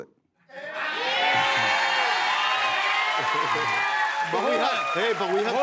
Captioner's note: cheers and applause